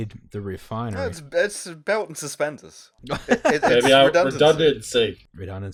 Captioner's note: laughter